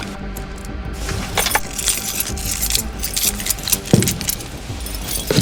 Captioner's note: metallic jingling as ATV keys on a red lanyard are pulled from the truck console